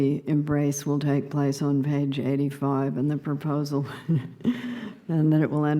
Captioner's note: laughing